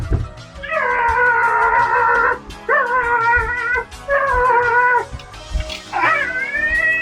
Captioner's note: bangs head on door; yelling continues